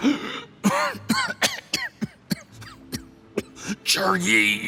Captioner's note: cough